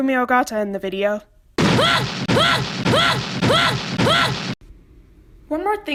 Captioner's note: megumi ogata noises